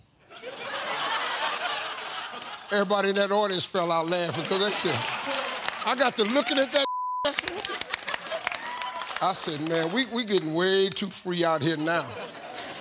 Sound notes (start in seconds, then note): 0.3 audience laughs; 6.8 beep; 11.8 audience chuckling